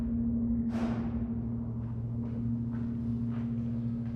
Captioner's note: door shuts in distance, footsteps approach